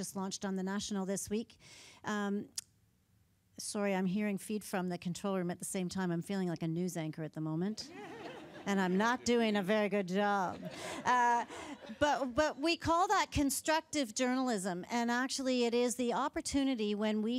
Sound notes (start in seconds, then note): 10.4 laughter